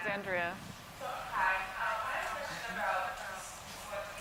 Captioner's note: woman's Voice